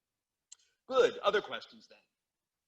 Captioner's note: teachers smacks lips